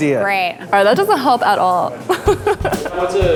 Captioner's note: laughs